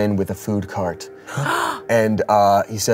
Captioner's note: gasps